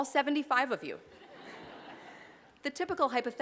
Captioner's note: laughter